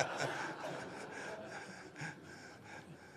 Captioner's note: laughter